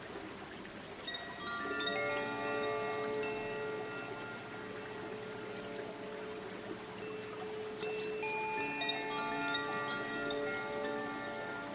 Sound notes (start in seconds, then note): 0.8 bells lightly chiming; 1.2 water babbling